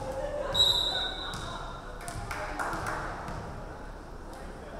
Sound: referee whistling

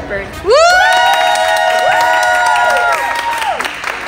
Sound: everyone cheering

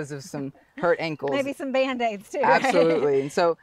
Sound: laughs

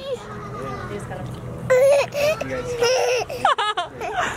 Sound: laughs

